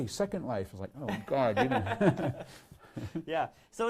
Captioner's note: laughs